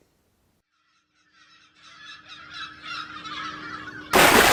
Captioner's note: gulls Calling; big Splash!